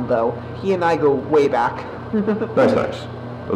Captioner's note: giggle